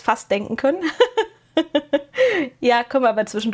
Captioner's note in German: gelächter